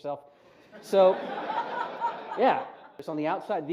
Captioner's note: laughter